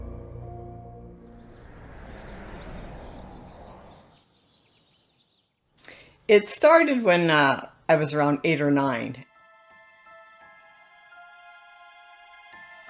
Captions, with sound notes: (cars cruising) (birds chirping) - It started when I was around eight or nine. (gentle music)